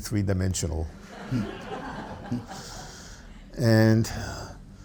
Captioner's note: audience laughs